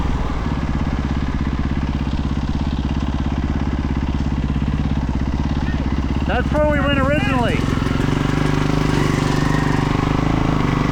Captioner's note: engine revving